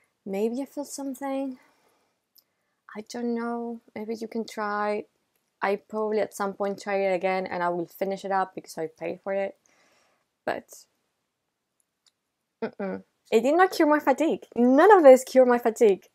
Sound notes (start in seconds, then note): 12.6 negation sounds